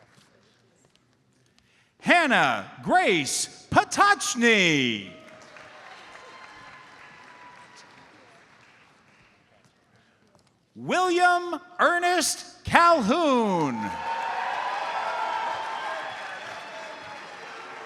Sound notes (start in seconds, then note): 4.3 audience applauds; 12.9 audience cheers and applauds